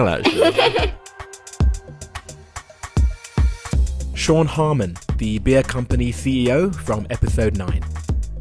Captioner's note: voiceover